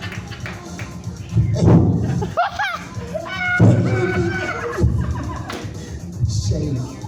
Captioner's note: cackling; laughs